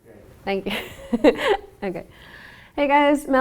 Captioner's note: laughter